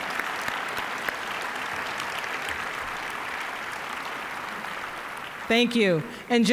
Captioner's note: applause